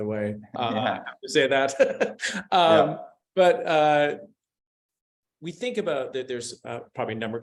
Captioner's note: laughs